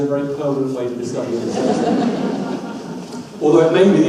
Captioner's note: audience laughs